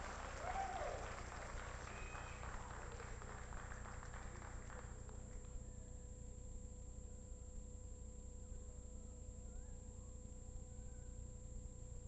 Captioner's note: applause